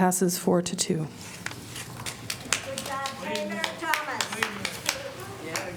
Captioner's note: applause